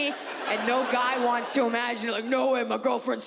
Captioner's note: audience laughs